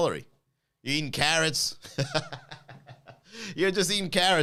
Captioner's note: laughs